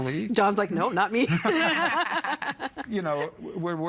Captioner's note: laughing